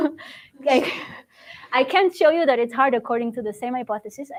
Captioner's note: laughs